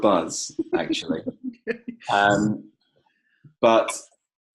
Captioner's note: laughing